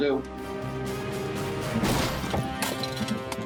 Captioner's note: thuds